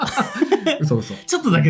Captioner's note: laughs